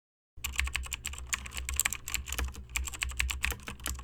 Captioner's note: typing